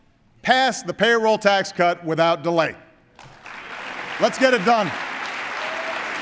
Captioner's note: applause